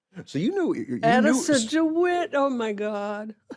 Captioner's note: chuckles